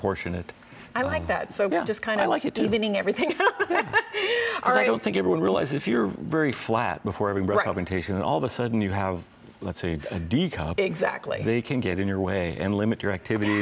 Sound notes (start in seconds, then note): 2.6 laughs